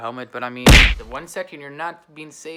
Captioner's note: loud punching